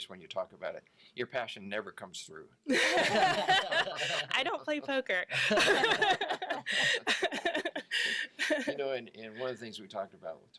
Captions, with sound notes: when you talk about it, your passion never comes through. (all laugh) - I don't play poker. (all laugh) - You know, and one of the things that we talked about